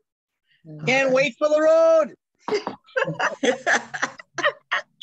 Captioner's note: all laughing